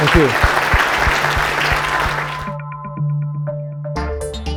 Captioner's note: audience applauding; techno music